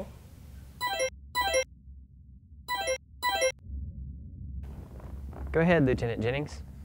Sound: tone ringing

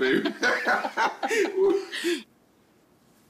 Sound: both laughing

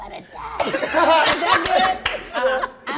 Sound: cast laughing

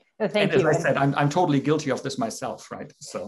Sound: laughter

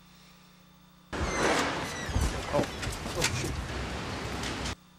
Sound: door screeching

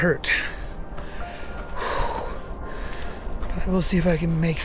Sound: exhaling

